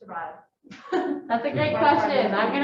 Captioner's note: chuckles